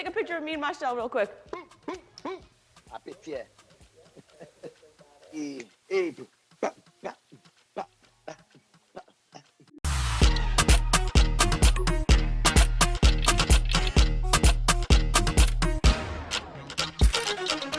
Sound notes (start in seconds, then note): 3.9 chuckles; 6.2 imitating calypso beat